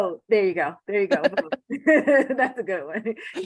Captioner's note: laughter